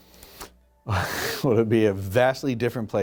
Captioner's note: laughs